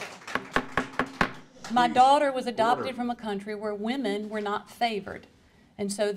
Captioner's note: applause